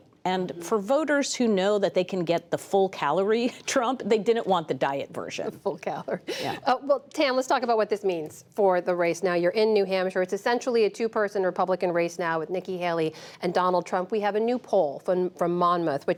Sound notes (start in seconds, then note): 5.4 laughter